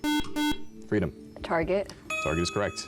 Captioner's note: buzzer